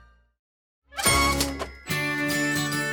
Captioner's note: cartoon cha-ching sting